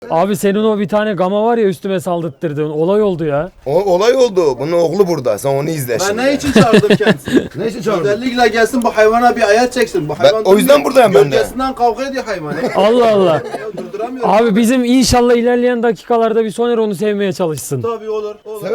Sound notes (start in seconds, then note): 12.3 laughs